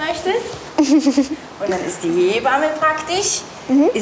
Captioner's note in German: lacht